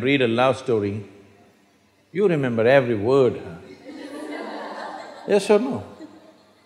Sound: laughter

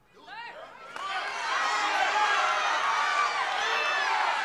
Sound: crowd clamors

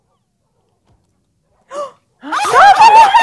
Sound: gasps; everyone starts screaming because the dogs are attacking

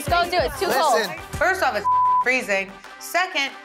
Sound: beep

